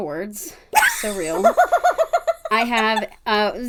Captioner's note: laughing